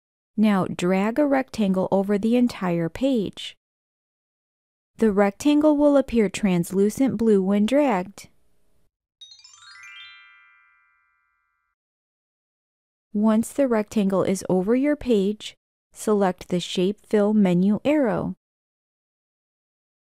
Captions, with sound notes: Now, drag a rectangle over the entire page. The rectangle will appear translucent blue when dragged. [Chime sound] Once the rectangle is over your page, select the Shape Fill menu arrow.